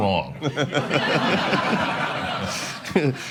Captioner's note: laughter